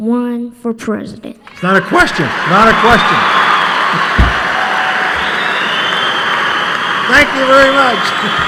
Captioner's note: cheering and applause